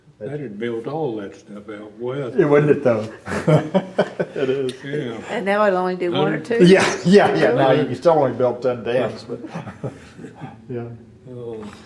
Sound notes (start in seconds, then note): 2.4 laughter